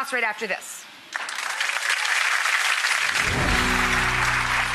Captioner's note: applause